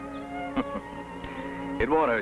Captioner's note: gentle music; Steve laughs